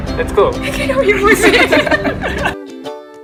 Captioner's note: unenthusiastically